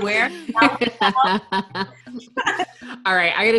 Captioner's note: laughing